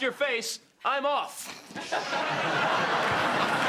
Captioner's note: all laugh